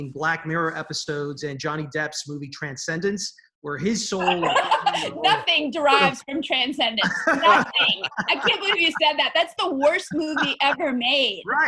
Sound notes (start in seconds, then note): 6.9 laughing